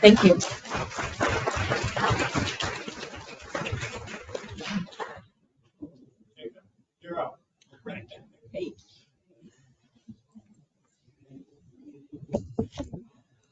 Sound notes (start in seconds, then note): 0.0 audience applauding